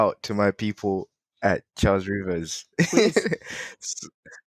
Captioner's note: laughing